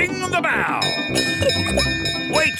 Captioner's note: bell chimes